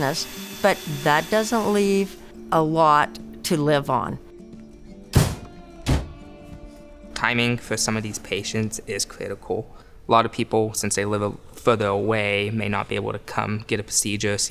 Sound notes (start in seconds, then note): 5.1 ambulance doors shutting